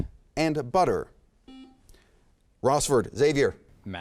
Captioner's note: buzzer chimes